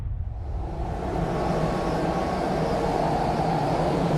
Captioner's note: wind whistles ominously